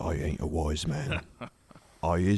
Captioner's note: hearty chuckle